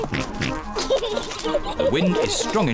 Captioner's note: giggles